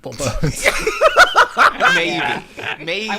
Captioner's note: laughter